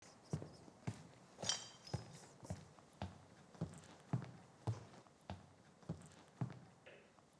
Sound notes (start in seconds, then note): 0.0 footsteps thumping; 1.4 glass clatter; 3.7 footsteps thumping